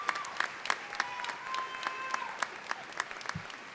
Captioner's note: applause